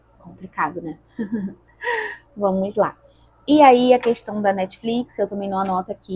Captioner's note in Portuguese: risadas